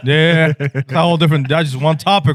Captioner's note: laughing